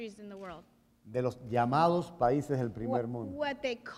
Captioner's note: speaking in Spanish